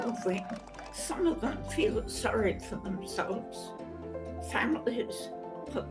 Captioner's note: applause